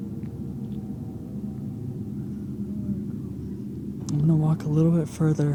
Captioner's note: whispering